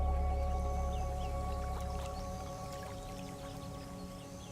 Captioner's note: birds chirping